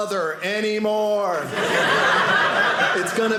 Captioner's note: audience laughing